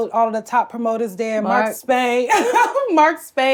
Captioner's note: laughs